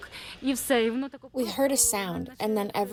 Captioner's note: through translator